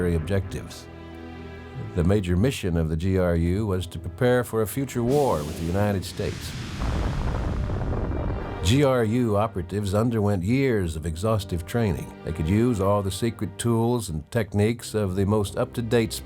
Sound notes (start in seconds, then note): 3.0 ominous music; 9.6 bomb exploding